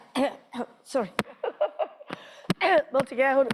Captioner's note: chuckles